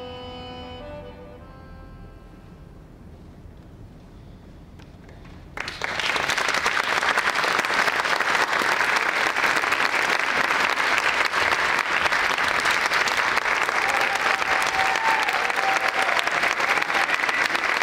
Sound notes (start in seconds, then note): 5.7 audience applauding; 14.0 audience cheering